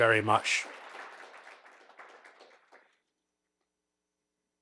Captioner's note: audience clapping